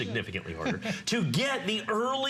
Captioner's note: laughter